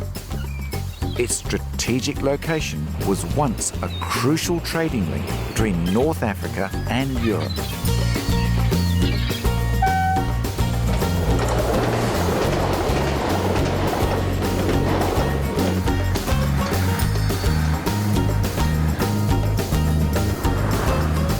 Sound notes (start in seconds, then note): 9.8 train horn beeps; 17.1 easy listening music